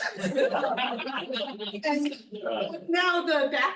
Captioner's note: students laughing